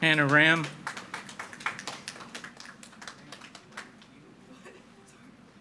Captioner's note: audience applauding